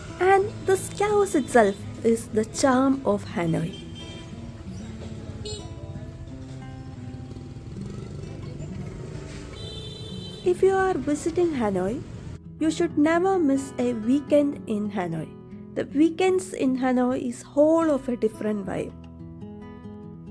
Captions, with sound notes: And this chaos itself is the charm of Hanoi. [Sounds of Cyclo, vehicle horns, and people talking] If you are visiting Hanoi, You should never miss a weekend in Hanoi. The weekends in Hanoi are a whole different vibe.